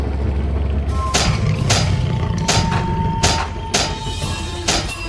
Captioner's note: stinger clinks; steps thudding